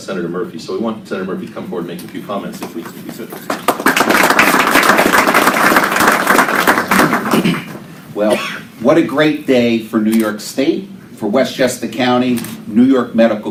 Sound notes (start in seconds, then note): 2.7 applause